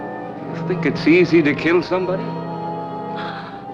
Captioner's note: gasps